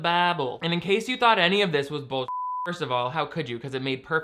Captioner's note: beep